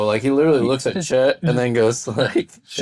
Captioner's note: laughing